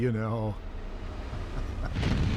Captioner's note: laughs